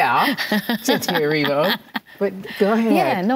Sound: laughing

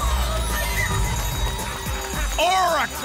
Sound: ding, ding, ding

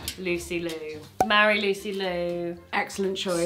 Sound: cork popping

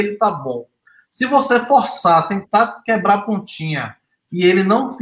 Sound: speaks portuguese

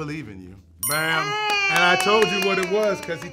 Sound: bell chimes

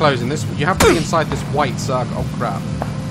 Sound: gunshot

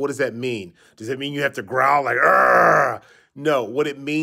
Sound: growling

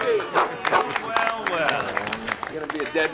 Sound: cheers

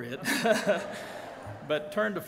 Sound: laughing

